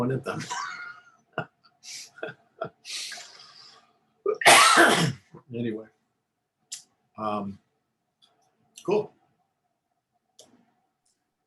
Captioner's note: laughter